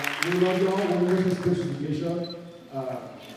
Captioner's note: applauds